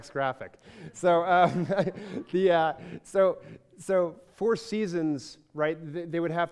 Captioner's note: laughs